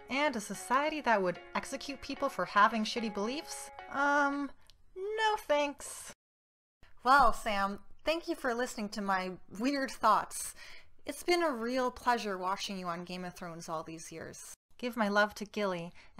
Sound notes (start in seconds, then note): none